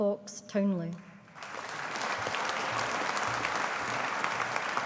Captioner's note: audience applauding